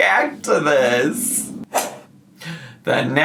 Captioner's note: whip cracks